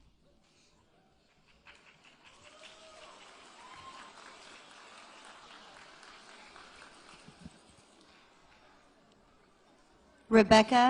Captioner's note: applause